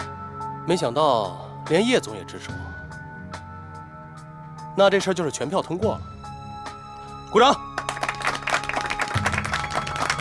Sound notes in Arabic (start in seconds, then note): 7.7 تصفيق